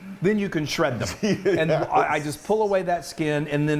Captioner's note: laughs